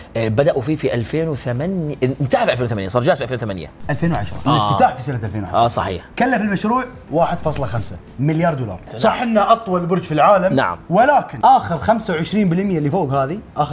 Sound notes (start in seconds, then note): none